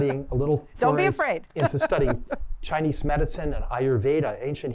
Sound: laughter; laughter

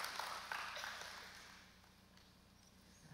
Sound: applause

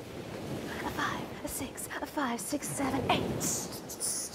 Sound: waves crashing

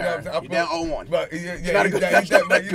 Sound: laughing

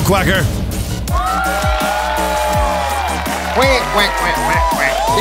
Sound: crowd cheers

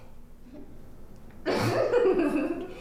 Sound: whispers; laughing

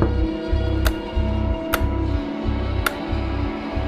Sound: pounding on glass; flipping light switch

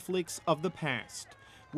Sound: cheers and Applause

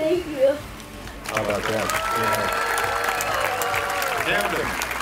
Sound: crowd cheering

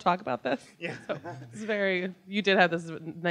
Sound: laughs

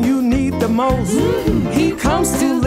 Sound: mmm hmm

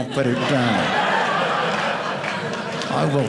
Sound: audience laughing

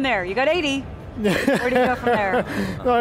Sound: laughs

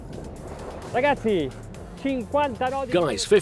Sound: speaking in Italian

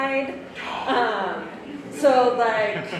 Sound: audience laughs

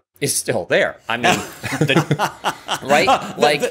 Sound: laughter

